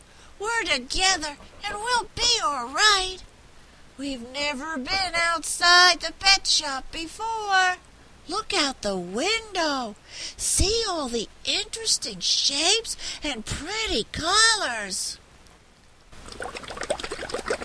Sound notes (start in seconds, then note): 12.0 sound of bubbles in water